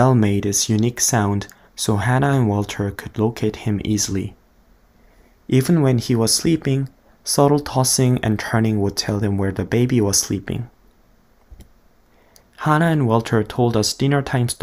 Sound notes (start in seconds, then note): none